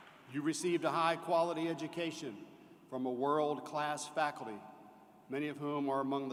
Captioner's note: applause